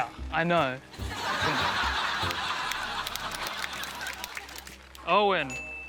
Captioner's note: laughter